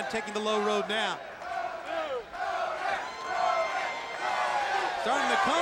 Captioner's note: crowd cheering